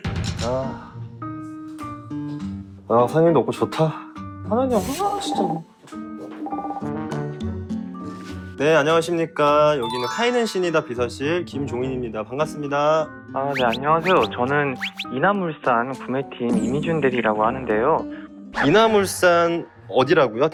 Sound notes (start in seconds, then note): 4.7 ring ring; 13.5 scratching